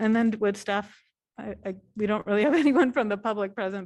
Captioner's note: laughter